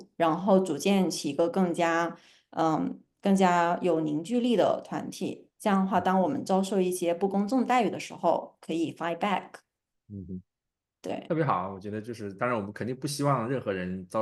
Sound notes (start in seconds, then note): 10.2 nonverbal grunt as interjection